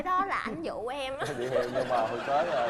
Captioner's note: laughing